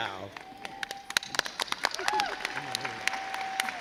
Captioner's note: crowd cheers